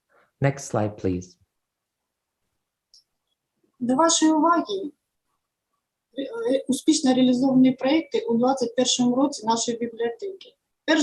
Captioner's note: foreign Language